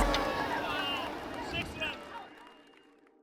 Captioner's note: cheering; players shouting out